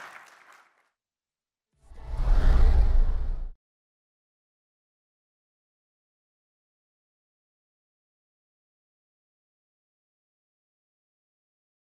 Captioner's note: applause